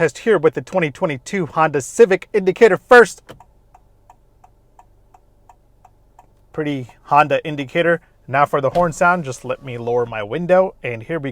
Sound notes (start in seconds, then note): 3.2 indicator blinkers